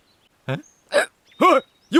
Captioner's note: burp